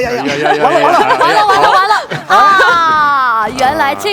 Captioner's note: laughs